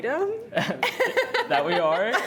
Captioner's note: laughter